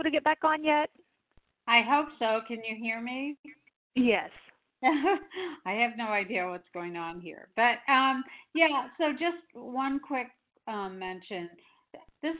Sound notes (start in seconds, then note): 4.9 chuckles